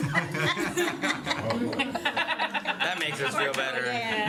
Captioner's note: laughter